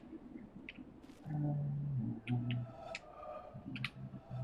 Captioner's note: humming